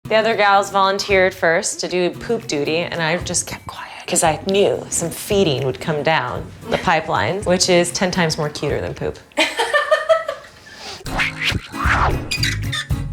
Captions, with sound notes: - The other gals volunteered first to do poop duty and I've just kept quiet 'cause I knew some feeding would come down the pipelines, which is 10 times more cuter than poop. (laughing)